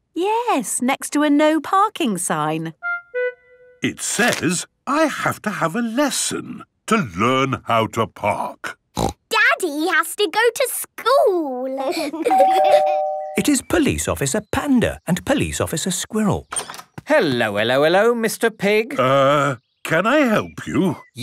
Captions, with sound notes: - Yes, next to a "No Parking" sign. - It says I have to have a lesson to learn how to park. - Snort! Daddy has to go to school! - (door bell ringing) - It is Police Officer Panda and Police Officer Squirrel. - Hello, hello, hello, Mister Pig. - Err... Can I help you?